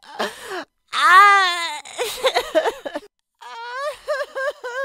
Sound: heavy Sobbing

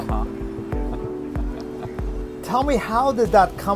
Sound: chuckles softly

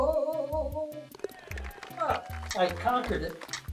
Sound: ball falls in cup, applause

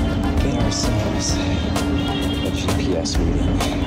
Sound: honk from the street

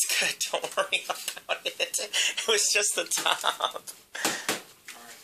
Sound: laughing; laughter

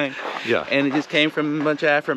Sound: chuckles

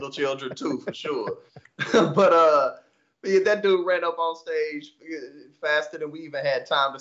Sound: laugh

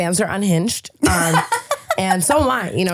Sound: laughing

